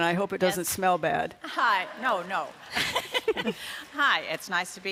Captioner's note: laughs